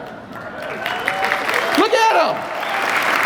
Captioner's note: audience applause